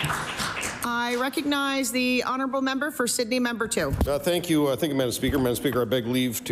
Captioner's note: applause